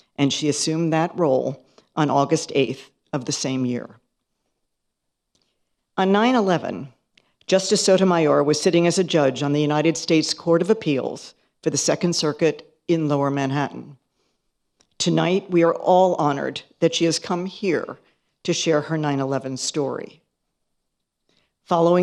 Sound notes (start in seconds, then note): none